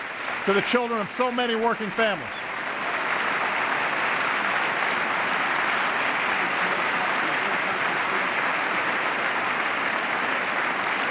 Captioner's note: applause